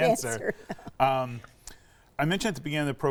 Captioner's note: chuckling